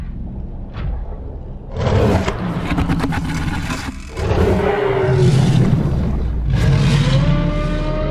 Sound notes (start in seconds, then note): 0.6 water whooshing; 1.8 creature roaring